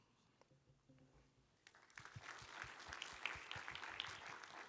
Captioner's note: applause